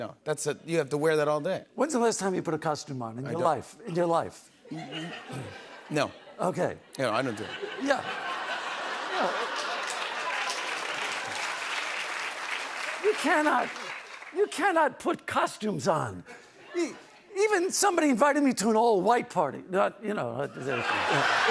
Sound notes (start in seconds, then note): 8.8 laughter; 10.5 cheers and applause; 20.5 laughter